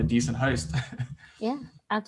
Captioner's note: laughs